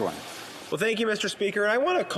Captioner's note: applause